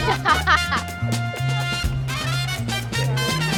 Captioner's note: women laugh; funky music